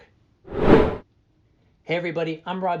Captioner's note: air whooshing